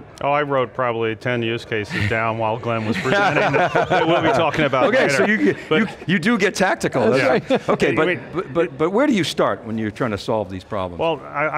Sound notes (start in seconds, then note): 2.7 laughter